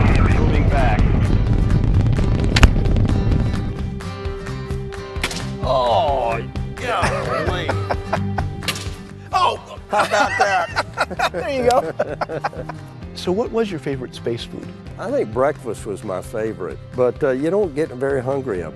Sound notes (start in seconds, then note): 1.2 upbeat music; 6.2 exclaims; 9.6 laughs